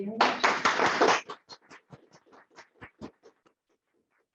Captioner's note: applause